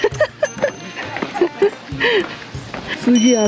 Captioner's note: laughing